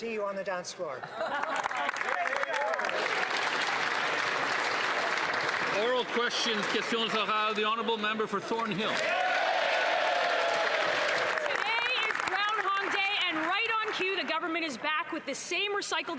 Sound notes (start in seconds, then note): 8.5 some Applause